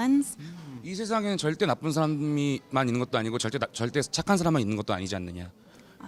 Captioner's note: speaks in a foreign language